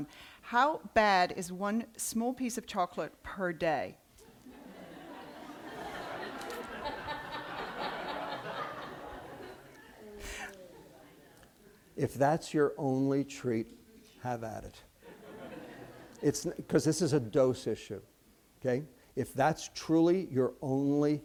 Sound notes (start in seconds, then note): 4.2 laughter